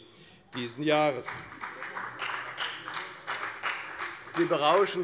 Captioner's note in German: Beifall bei der FDP